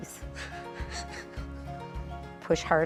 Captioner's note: laughing